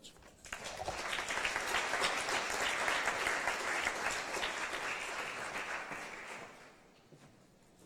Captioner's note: applause